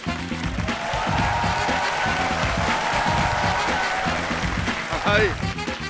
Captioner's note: applause